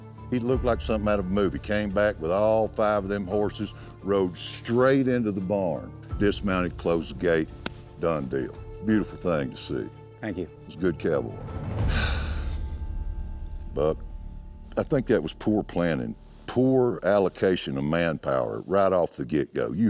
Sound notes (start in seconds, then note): 7.5 claps hands; 11.8 sighs